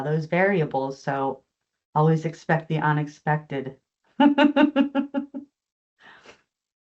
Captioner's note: chuckles